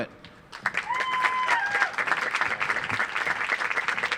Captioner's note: audience applauds